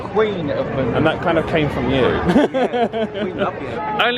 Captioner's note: laughs